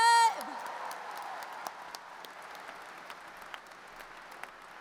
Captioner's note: audience applauds